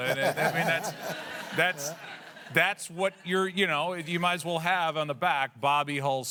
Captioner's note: laughter